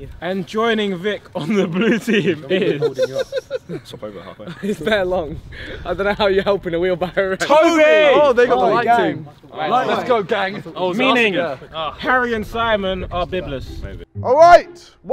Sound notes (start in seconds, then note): 3.2 men chatting; 3.2 men laughing